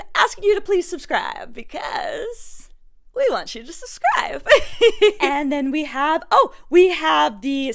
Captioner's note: gigglies